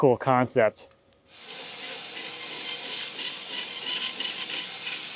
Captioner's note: saw buzzing